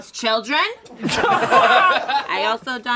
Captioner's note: all laugh